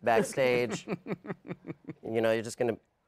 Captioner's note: chuckles